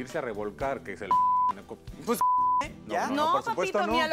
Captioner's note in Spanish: Bip